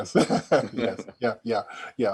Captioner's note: chuckling